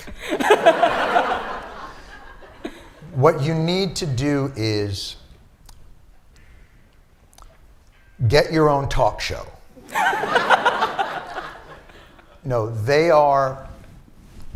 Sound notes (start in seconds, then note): 0.0 laughter; 9.8 laughter